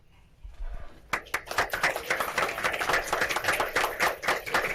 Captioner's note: applause